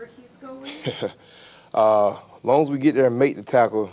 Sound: chuckles

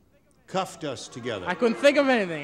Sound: booing

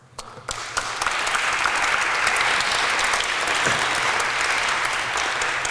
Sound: applause

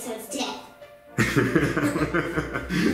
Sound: laughing

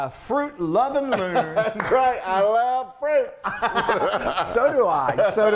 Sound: laugh

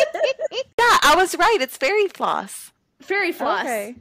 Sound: laughter

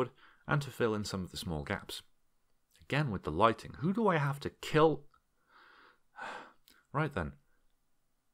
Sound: sigh

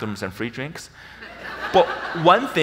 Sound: audience laughs

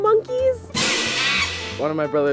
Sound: monkey screeches, symbols crash

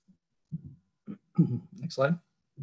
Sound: clears throat

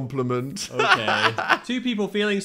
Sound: laughs

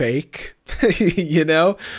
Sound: laughs

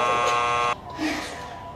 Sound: buzzer buzzing

